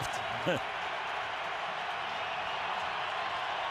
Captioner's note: crowd cheering